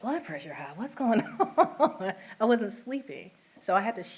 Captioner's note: laughter